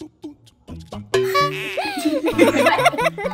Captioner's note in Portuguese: som de mola; risada de bebê; risadas; risos